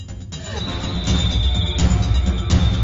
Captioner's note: screaming; tense drumming